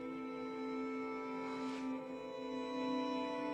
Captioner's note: sniffles